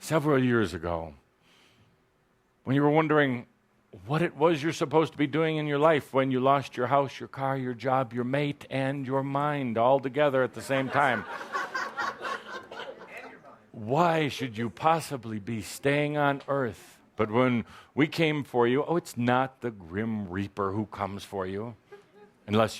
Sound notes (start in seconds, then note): 10.5 laughter